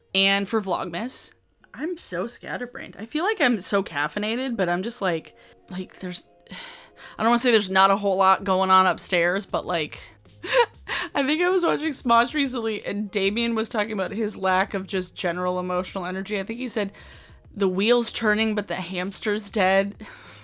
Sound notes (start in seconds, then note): 10.4 laughs